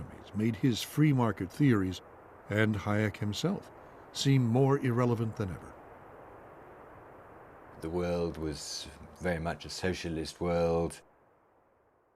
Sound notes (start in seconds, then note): none